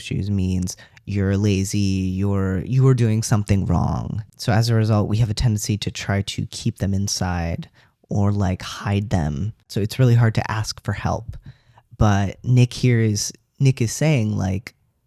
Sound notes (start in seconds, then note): none